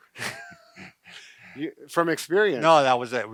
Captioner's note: both laughing